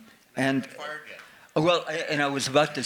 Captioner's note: faintly speaking